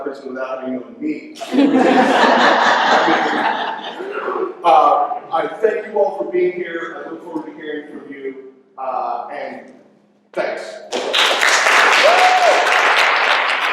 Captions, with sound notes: of prison without even me. [LAUGHTER] I thank you all for being here. I look forward to hearing from you, and thanks. [APPLAUSE]